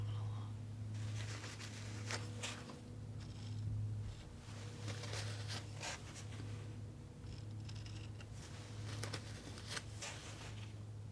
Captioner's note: scratching